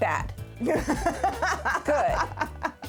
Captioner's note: laughing